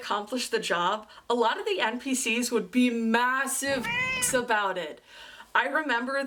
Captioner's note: meow